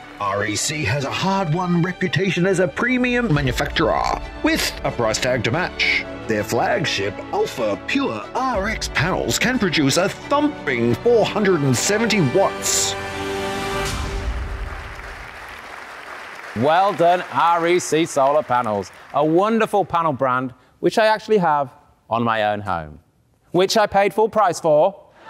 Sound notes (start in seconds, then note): 14.1 audience applauding